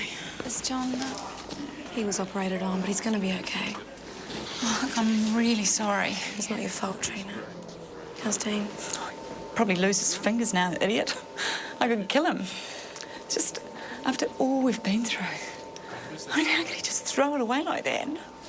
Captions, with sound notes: - Is John all right? - He was operated on, but he's gonna be okay. - Look, I'm really sorry. - It's not your fault, Trina. How's Dean? - He'll probably lose his fingers now, the idiot. (laughs) I could kill him. Just, after all we've been through. How the hell could he just throw it away like that?